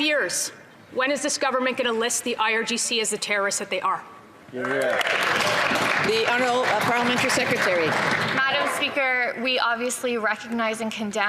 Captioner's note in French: voix de l'interprète